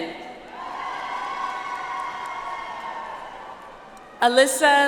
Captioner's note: audience applauds